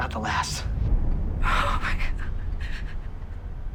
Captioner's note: whimpering